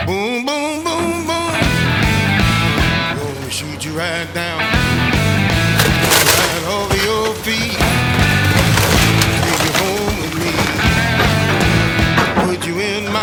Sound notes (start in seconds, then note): 9.0 metal crunching; 11.3 rubble crumbling